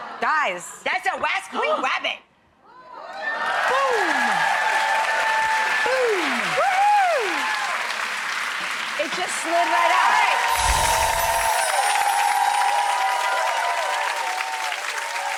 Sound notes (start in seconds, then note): 6.5 audience applauding; 11.5 audience cheering